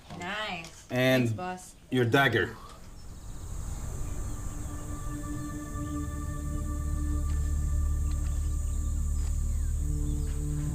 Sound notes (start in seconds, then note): 4.8 birds chirping; 4.8 light dramatic music